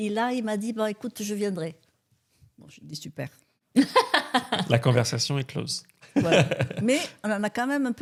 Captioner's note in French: rires